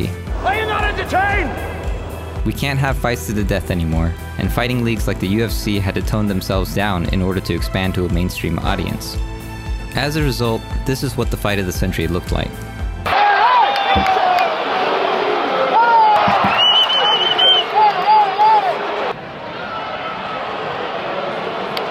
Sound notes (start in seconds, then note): 13.0 mix of crowd cheering and booing; 19.2 soft cheering and clapping